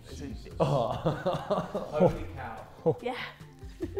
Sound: Miniminter laughing

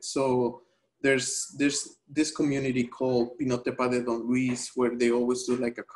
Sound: speaking spanish

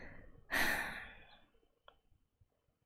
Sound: exhales

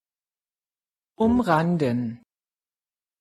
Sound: fast Pronunciation

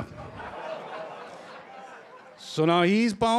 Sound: laughter

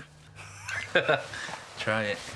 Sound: paddy laughs

